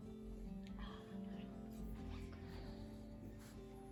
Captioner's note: whispered